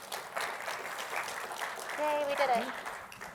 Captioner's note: applause